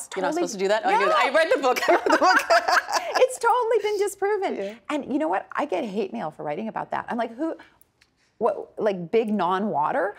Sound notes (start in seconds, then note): 1.8 both laughing